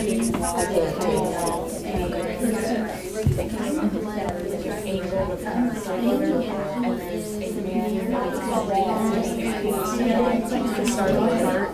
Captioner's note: chatter